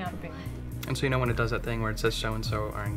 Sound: voiceover

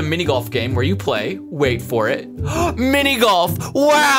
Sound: gasps

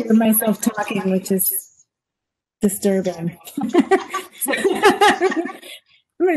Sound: laughs

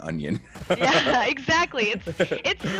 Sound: laugh

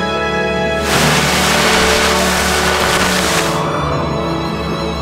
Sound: plastic rustling

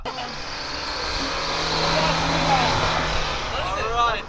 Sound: engine roaring

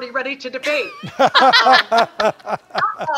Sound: doctors laughing

